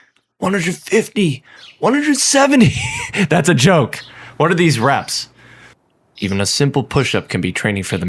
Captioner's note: laughter